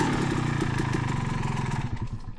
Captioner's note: engine revving